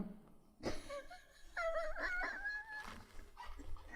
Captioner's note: laughs